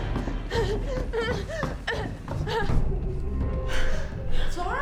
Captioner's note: Claire gasping